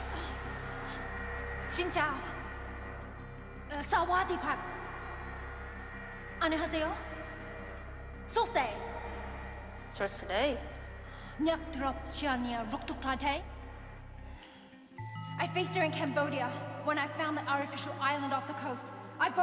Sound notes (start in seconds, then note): 10.1 lady responding in a foreign language; 11.5 morphed Tara speaking in a foreign language